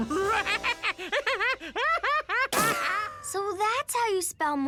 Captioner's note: laughing